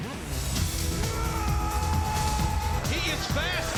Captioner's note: Glacier screams